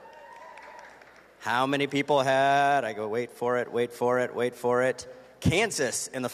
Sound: cheers and applause

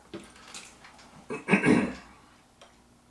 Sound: clears throat

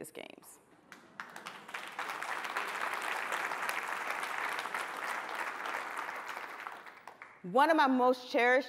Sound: applause

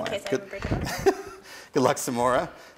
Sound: chuckles

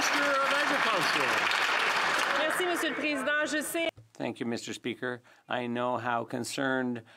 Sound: some Applause

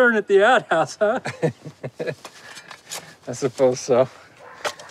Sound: laughing

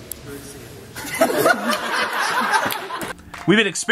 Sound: laughter

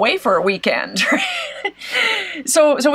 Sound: laughs

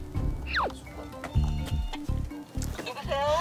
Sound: ringing one more time

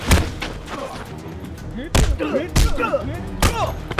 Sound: grunting

